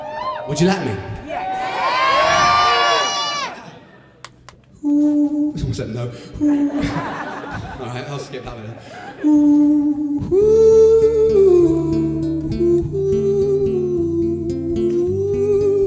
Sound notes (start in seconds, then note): 0.0 crowd cheers; 4.8 vocalising; 6.5 laughter; 8.9 vocalising